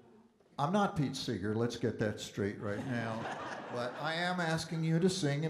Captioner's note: audience Laughing